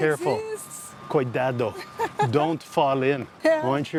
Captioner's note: in Portuguese